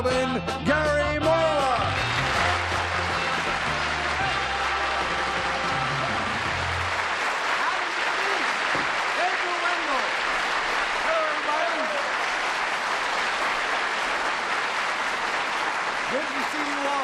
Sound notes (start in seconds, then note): 2.7 applause